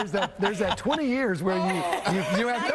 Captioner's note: laughter